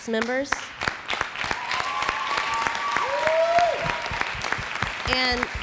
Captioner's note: audience applauds; audience cheering